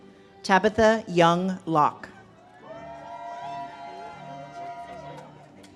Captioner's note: audience cheers